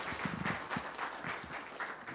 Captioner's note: applause